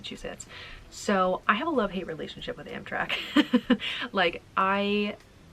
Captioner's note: laughing